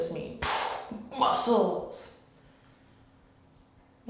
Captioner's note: air blast